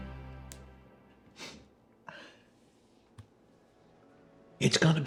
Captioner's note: sniffling